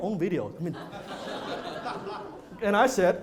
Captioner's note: laughter